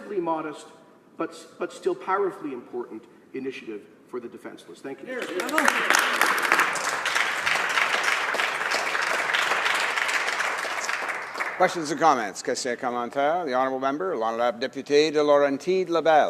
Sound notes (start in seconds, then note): 9.4 applause